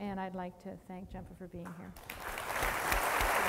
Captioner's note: applause